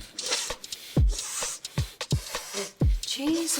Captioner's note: Annie inhaling and exhaling